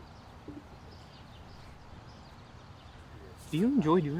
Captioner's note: birds chirping